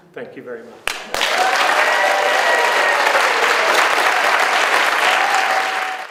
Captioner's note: audience applauds and cheers